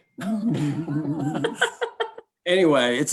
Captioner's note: everyone laughs